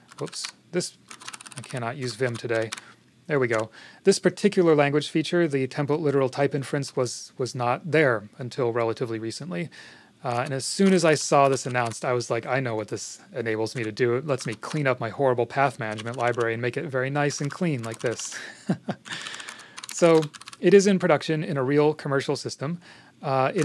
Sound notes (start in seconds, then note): 18.3 chuckles